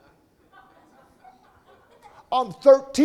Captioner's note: audience laughing